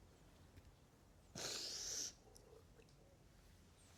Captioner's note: Carmen sniffles